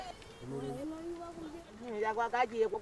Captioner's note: chatter in local language